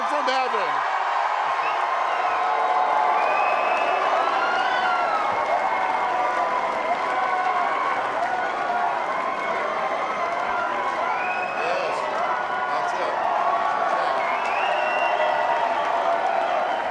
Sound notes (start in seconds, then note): 3.7 cheers and applause